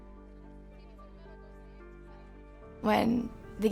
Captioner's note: girls chattering